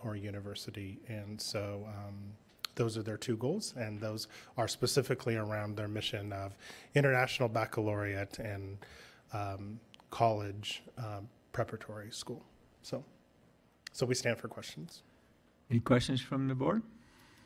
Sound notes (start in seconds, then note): none